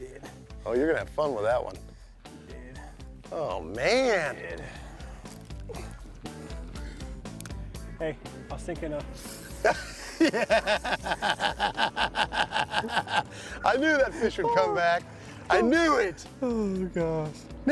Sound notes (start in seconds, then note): 9.3 laughing